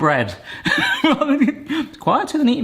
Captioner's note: laughing